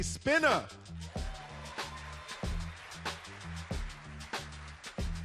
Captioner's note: audience applauding